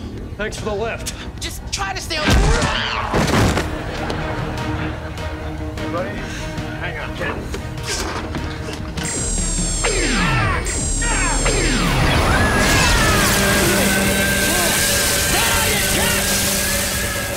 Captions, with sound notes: - Thanks for the lift. - Just try to stay on... - Ray. - Hang on, Kid. Ack! [screaming] Is that all you got?